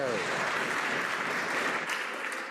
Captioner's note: some Applause